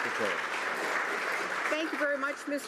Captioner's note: some Applause